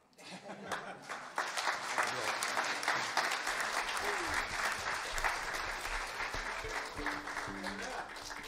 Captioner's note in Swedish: applåder